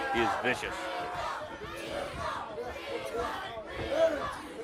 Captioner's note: crowd cheering